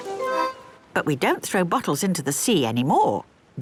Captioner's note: none